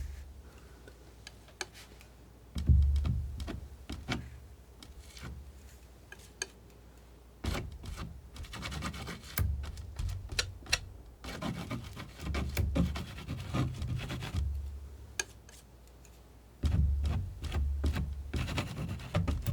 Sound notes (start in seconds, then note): 6.1 scratching